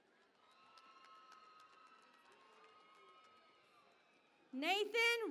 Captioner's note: cheering and Applause